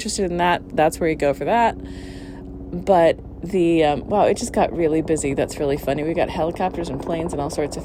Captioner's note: loud helicopter noise